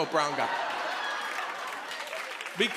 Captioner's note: laughter and applause